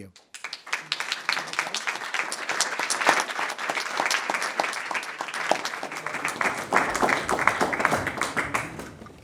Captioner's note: applause